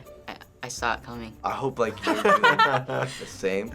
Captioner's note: both laughing